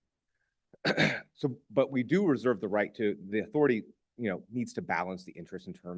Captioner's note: clears throat